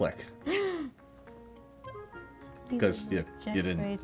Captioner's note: gasps